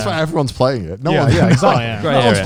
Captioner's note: chuckles